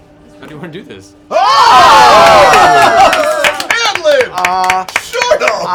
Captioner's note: cheering